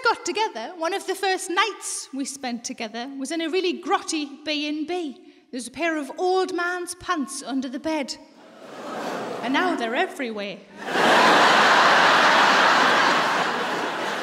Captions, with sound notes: When we first got together, one of the first nights we spent together was in a really grotty B&B. There was a pair of old man's pants under the bed. And now they're everywhere. (LAUGHTER)